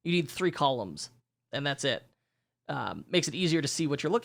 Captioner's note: none